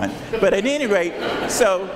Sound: audience laughs

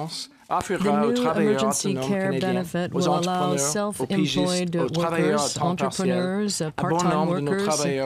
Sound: speaking french

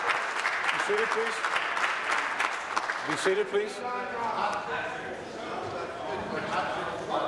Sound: applause

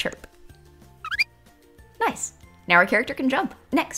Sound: bird chirping

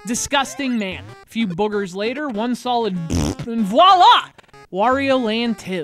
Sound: fart sound

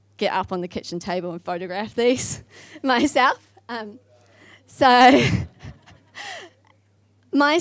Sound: laughs

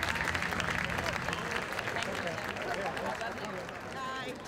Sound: crowd applauds

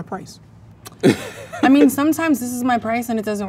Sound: man laughs

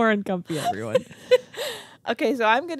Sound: chuckling

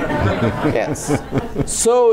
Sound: laughing

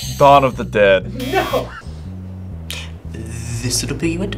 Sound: buzzer rings; buzzer

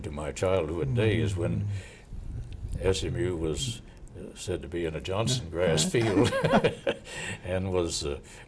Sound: laughing

